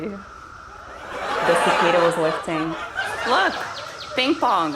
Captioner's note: laughter